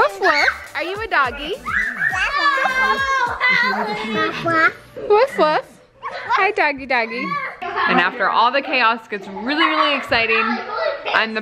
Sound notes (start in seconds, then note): 1.8 several children chattering